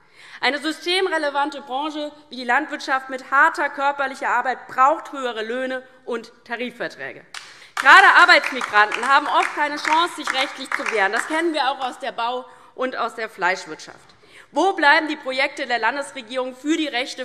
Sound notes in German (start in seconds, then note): 7.3 Beifall DIE LINKE